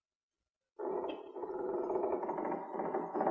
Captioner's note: door creaking